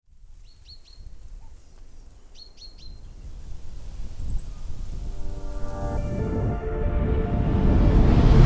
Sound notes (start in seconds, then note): 0.3 birds chirping; 5.1 dramatic music